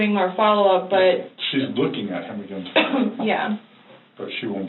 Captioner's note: coughs